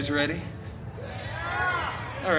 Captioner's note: guests shouting yeah